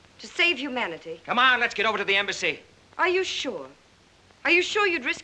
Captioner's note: none